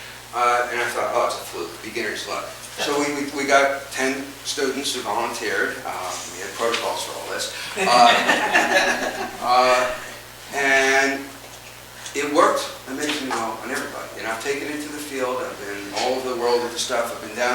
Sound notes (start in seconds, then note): 7.7 audience chuckles